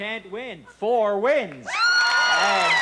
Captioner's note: screams